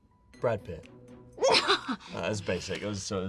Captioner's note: laughing